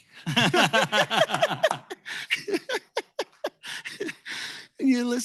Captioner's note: laughter